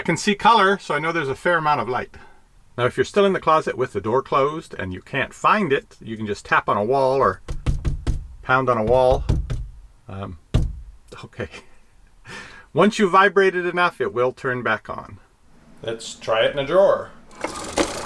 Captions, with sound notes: I can see color, so I know there's a fair amount of light. Now if you're still in the closet with the door closed, and you can't find it, you can just tap on a wall or (pounding wall) pound on a wall. Okay. (laughs) Once you vibrate it enough, it will turn back on. Let's try it in a drawer.